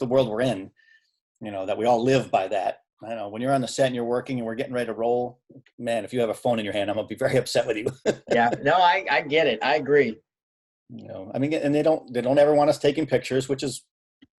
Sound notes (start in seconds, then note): 7.8 laughing